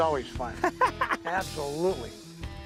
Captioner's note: laughing